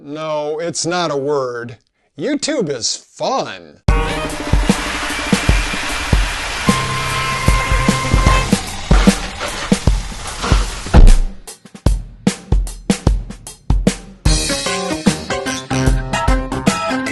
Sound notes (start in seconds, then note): 3.9 chain Saw; 10.1 crash; 10.8 thump